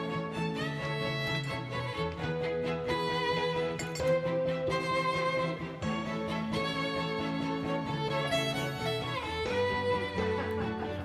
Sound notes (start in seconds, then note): 3.7 cup clinks